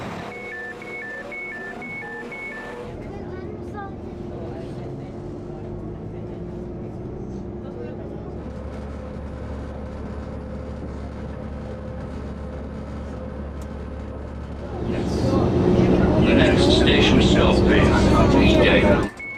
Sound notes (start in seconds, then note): 0.0 train engine; 0.0 doors beeping; 3.8 train engine